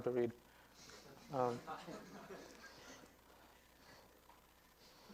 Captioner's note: student laughs